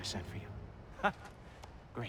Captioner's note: laugh